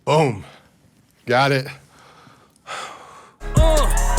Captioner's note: sighs